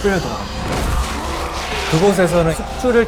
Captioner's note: ahh!